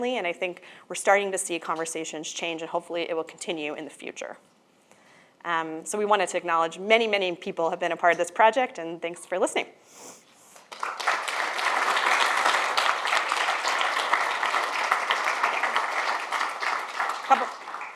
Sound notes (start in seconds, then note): 10.5 audience applauds